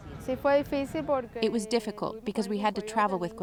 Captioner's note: through translator